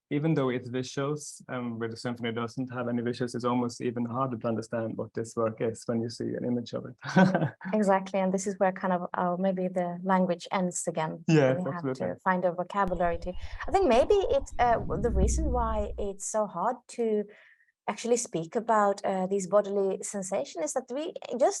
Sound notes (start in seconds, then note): 6.8 laughs